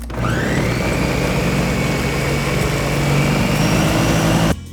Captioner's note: blender whirring